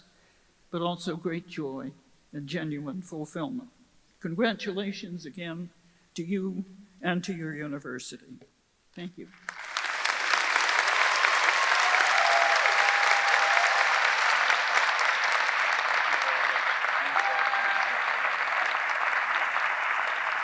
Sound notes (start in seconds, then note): 9.7 audience applauding; 9.7 audience cheering